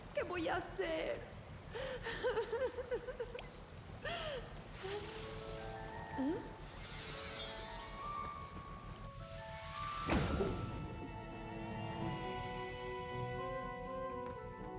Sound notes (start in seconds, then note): 1.7 sobbing